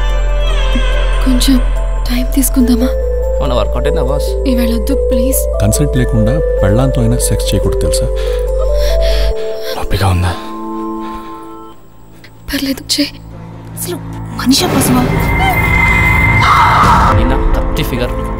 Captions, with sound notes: Do we give it sometime? Did it happen the other day? Not today please... Without her consent, you shouldn't have sex even with your wife. [gasps in pain] Is it paining? That's okay, do it. Is he an animal? [groans and screams] Nina is in a great shape.